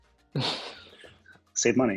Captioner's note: laughing